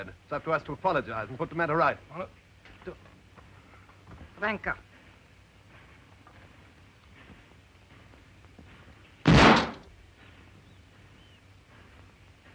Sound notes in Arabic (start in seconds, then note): 4.2 البارونة تتحدث لغة أجنبية; 9.2 طلق ناري